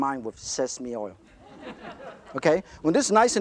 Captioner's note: audience laughter